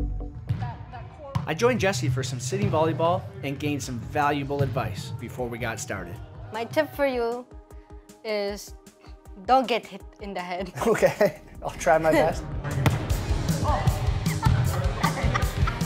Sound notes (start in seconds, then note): 11.3 chuckles; 12.8 thump; 13.9 laughs; 14.1 chuckles